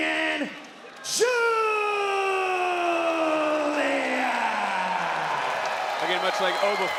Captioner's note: crowd cheers